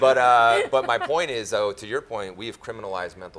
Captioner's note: laughing